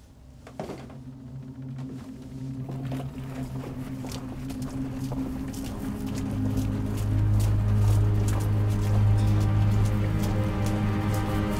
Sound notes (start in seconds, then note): 0.3 tense foreboding music; 4.0 gasoline sloshing